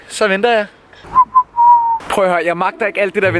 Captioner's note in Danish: fløjter